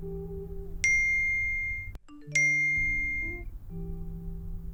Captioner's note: phone message pings